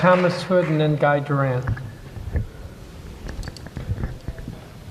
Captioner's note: applause